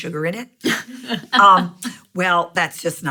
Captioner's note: laughing